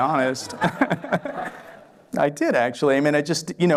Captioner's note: laughter